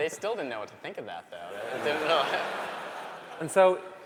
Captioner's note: laughter